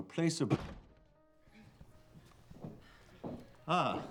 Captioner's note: door slams open